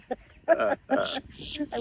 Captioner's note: laughter